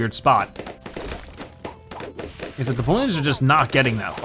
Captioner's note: balloons popping rapidly